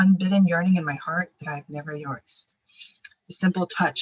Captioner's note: faintly speaking